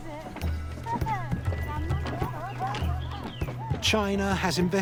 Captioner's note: woman speaking Tibetan, laughing